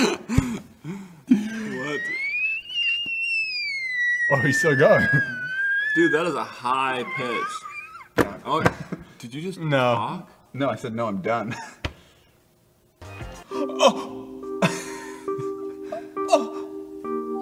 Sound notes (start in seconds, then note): 1.3 wheeze and laughs; 1.6 high pitch scream